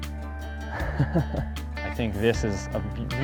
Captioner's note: laughs